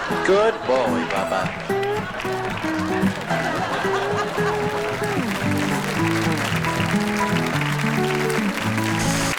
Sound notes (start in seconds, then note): 1.8 audience laughs; 5.2 audience applauds; 6.2 mellow guitar music